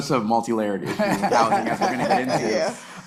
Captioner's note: panelists laughing